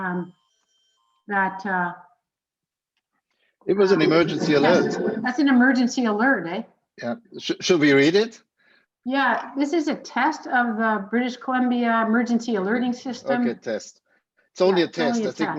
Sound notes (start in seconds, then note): 0.0 alarm ringing